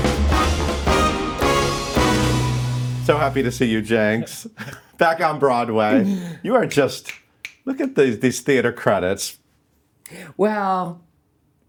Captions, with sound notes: - So happy to see you, Jinkx. Back on Broadway. You are just (snapping fingers). Look at these theater credits. - Well.